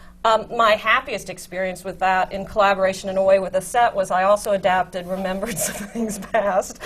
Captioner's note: laughs